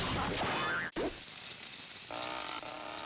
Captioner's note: sizzling